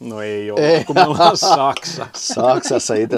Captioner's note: laughter